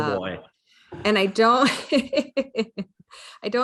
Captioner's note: laughs